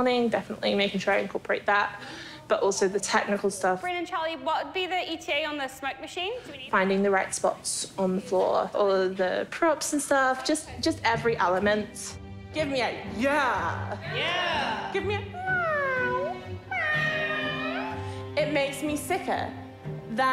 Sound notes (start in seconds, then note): 15.3 meows; 16.7 crew members meow